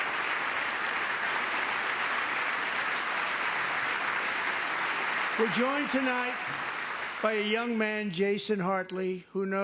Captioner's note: applause